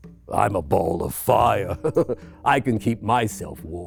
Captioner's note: laughs